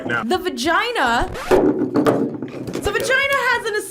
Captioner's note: record scratches